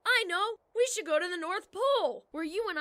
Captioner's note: enthused